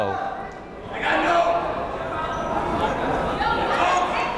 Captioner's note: yelling